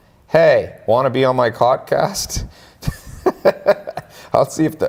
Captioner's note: laughs